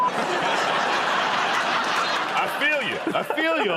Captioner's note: laughter